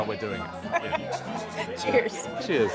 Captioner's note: laughs